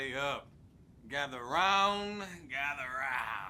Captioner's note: laughs